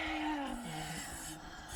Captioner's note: ghostly voice all around